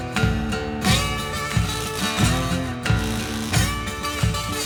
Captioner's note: electricity crackling